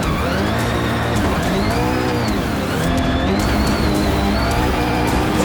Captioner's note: engine revving